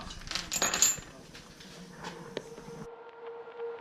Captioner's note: chains rattle; eerie music